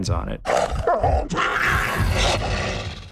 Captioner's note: growling